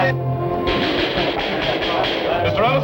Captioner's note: pounding gavel